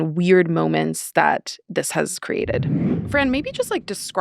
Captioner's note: screen whooshing